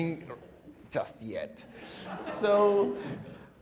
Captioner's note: audience laughs